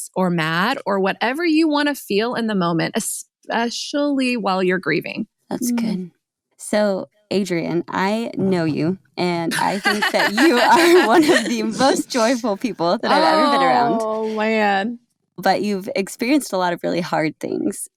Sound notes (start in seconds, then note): 9.5 laughs